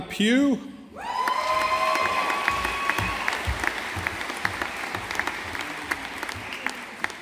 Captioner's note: audience applauding